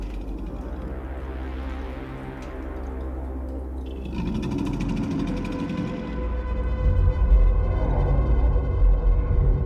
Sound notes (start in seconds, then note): 1.1 dramatic music; 4.0 growling